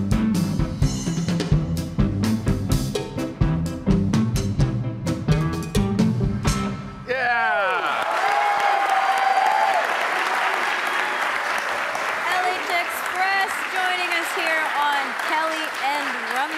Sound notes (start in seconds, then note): 7.0 audience cheering; 7.3 audience applauding